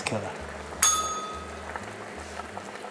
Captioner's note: bell rings